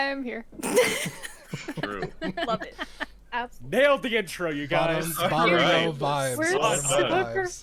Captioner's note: laughter